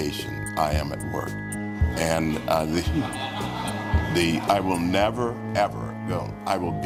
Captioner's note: crowd laughs